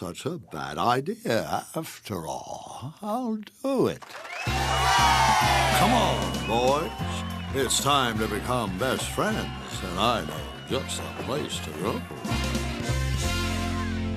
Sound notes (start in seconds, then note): 6.0 cheers